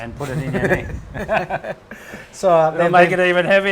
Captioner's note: laughs